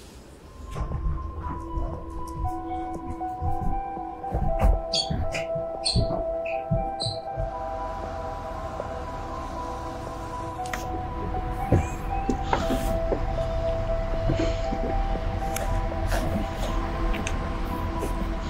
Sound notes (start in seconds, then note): 1.2 mysterious music; 1.2 shoes squeaking; 8.0 traffic humming; 11.7 birds chirping; 15.9 mysterious music continues